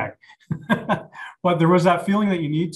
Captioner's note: laughs